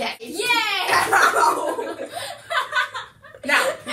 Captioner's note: laughter